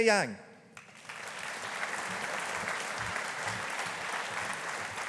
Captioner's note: audience applauding